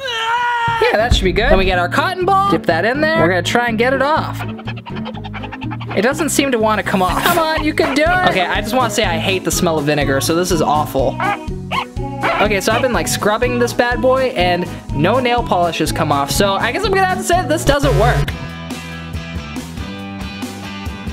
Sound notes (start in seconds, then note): 0.1 more strained screaming; 4.5 cartoonish polishing sound; 17.4 upbeat music